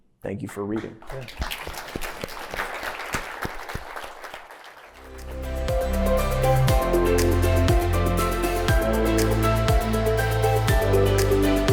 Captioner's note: applause